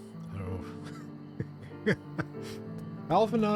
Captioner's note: laughs